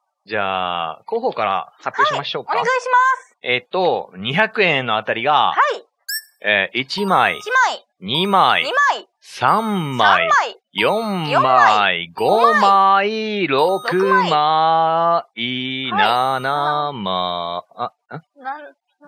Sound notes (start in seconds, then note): 8.7 laughs